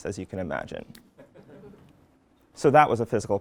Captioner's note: laugh